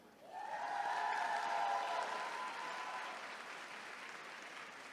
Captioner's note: attendees cheering